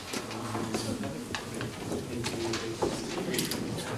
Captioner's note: chatter